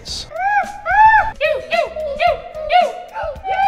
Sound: yelling

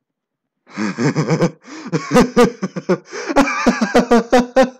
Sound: Schlatt laughs

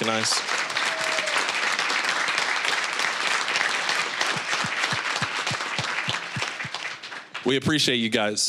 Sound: applause

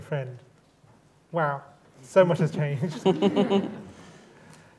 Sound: laughter

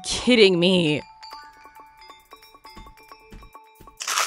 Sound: bell ringing; paper rustling

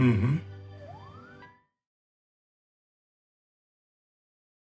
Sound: siren wailing

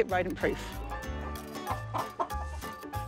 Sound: chickens cluck

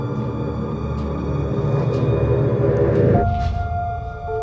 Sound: suspense sfx, builds

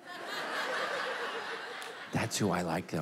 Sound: congregation laughing

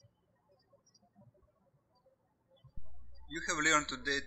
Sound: birds chirping

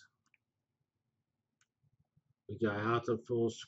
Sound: pause

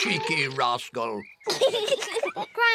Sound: both laugh

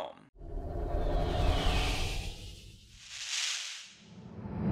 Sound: electronic whooshing

